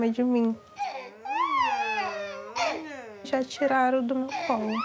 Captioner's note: baby fussing